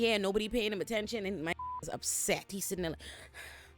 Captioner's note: beep